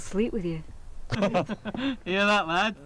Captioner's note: laughing